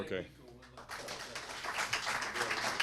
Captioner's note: applause